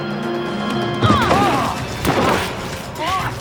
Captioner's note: grunting